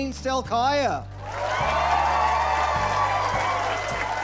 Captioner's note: applause